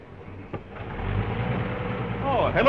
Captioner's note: car engine accelerating